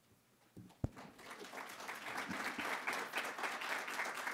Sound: applause

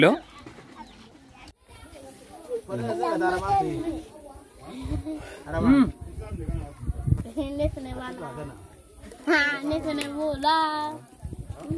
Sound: speaking in Foreign language

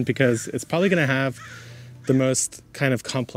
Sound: bird caws

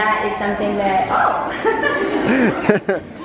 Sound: laughing

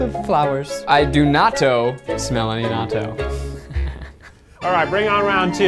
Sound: laughs

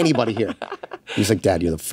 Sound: laughs

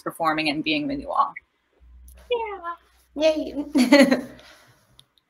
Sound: laughter

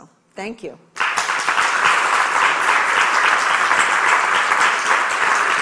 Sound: audience applauds

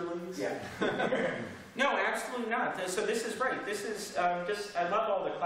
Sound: laughter

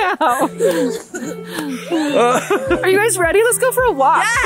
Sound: laughs

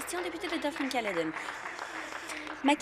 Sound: applause

